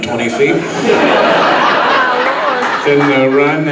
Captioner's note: audience laughs